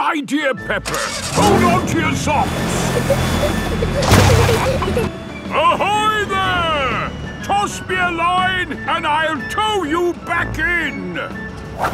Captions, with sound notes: Good idea, Peppa. Hold on to your socks! (PEPPA AND GEORGE GIGGLING) Ahoy, there! Toss me a line and I'll tow you back in!